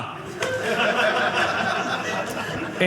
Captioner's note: audience laughing